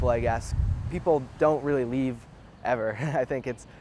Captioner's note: giggles